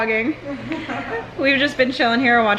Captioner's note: laughter